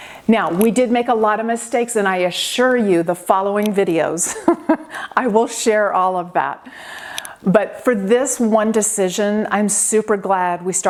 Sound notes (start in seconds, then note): 4.2 laughing